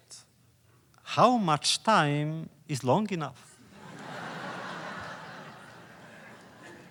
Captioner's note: laughter